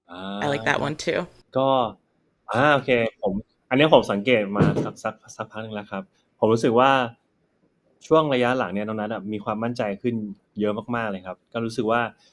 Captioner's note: answering in Thai